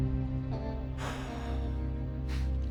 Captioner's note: sighs deeply